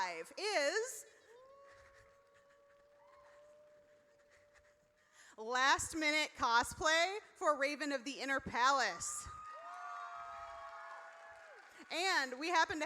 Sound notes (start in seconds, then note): 9.0 audience cheers